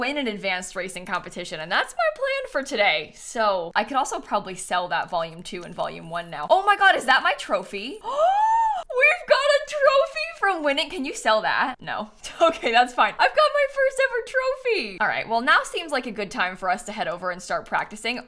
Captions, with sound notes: win an advanced racing competition and that's my plan for today, so. I could also probably sell that volume two and volume one now. Oh my god, is that my trophy? [GASPS] We've got a trophy from winning, can you sell that? No. Okay, that's fine. I've got my first ever trophy! All right, well now seems like a good time for us to head over and start practicing.